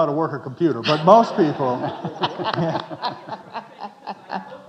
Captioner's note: audience chuckling